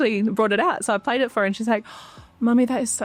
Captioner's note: gasps